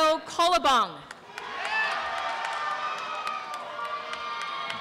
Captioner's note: applause and cheering